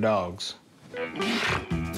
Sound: huffs

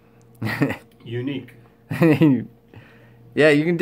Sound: laughter

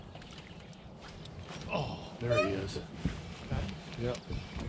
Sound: rod whipping

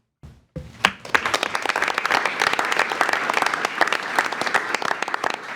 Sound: attendees applauding

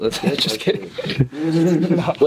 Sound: laughs

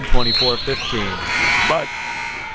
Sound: buzzer

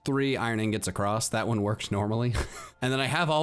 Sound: laughs

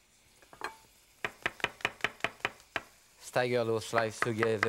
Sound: knife chopping against cutting board

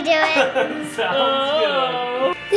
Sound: laughing

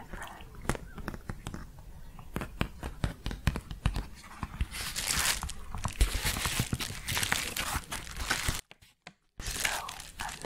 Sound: tapping, then crinkling

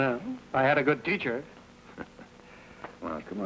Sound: chuckles

